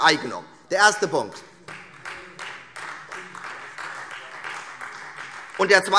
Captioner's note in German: Beifall Freie Demokraten